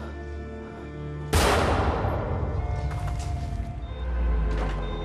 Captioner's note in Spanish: Disparo